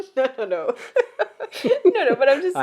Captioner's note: laughs